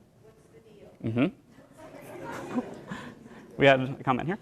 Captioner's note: laughter